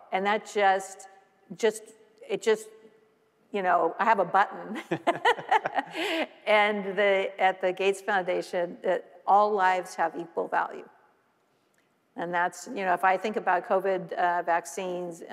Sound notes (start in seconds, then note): 4.7 both laughing